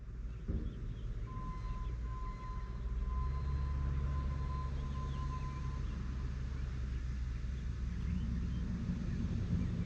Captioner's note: sound of heavy equipment working in the distance